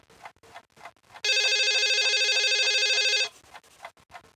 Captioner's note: phone rings